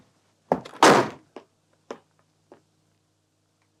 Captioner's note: slam